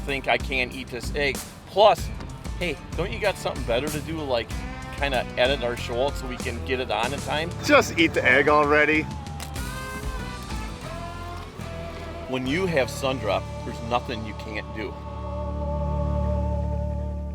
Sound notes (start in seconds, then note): 7.8 voiceover